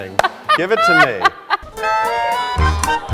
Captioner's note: Sutton laughing